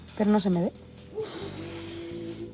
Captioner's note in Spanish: Suspiro